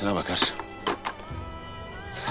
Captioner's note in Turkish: Yere Odun Düşme Sesi